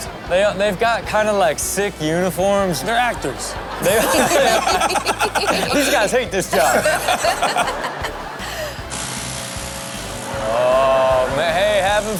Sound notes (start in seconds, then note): 3.6 Sterling and Karrueche laughing; 6.4 laughter continues; 8.8 leaf blower whirring